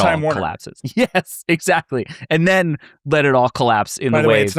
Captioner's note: laughs